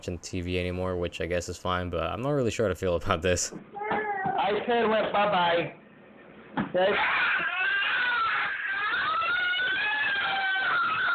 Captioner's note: screams of the demented